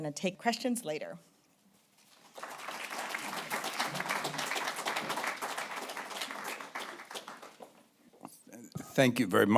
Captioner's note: applause